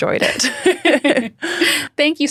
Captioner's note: both laughing